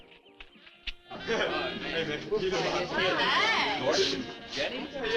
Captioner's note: teens chatting